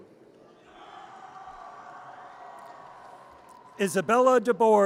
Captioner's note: audience cheers